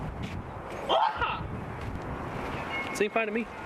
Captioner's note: Jason imitates Bruce Lee scream